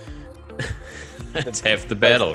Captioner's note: chuckles